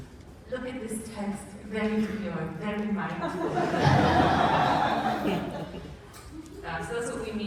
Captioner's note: laughter